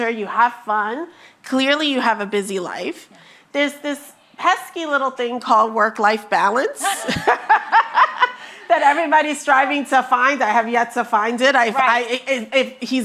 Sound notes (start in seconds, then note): 6.8 both laughing